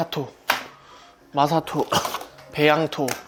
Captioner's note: cough